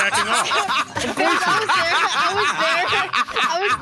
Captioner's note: laughing